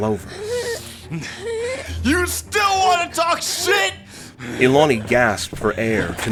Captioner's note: wheezed gasps from Ilani; yelling